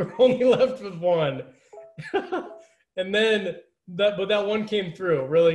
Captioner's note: laughter